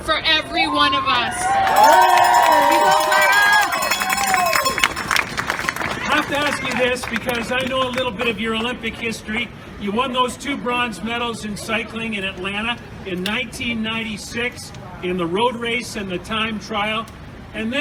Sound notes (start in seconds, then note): 0.5 cheering and applause